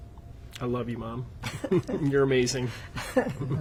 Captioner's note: laughing